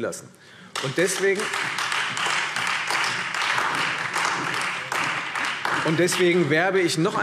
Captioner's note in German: Beifall Freie Demokraten, BÜNDNIS 90/DIE GRÜNEN, SPD und AfD